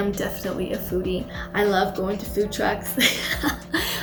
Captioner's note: laughs